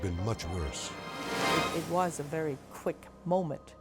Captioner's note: dramatic whoosh